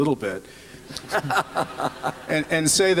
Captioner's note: laughter